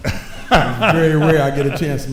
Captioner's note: laughing